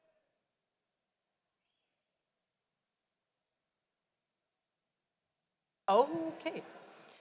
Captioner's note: none